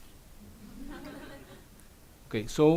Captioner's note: audience laughs